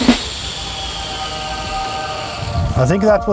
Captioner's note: heaven sounds